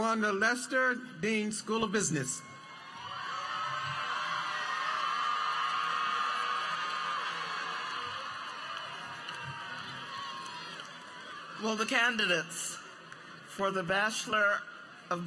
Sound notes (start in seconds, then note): 9.3 applause